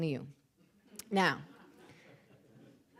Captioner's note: audience laughing